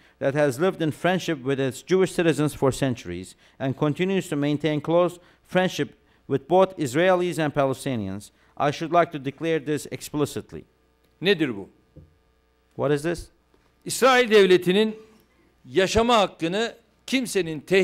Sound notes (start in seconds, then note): 11.8 non-english speech; 15.5 non-english speech